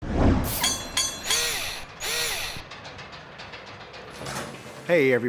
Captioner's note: mechanical SFX